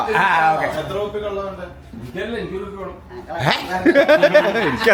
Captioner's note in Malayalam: പൊട്ടിച്ചിരി